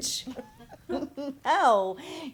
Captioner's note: both laughing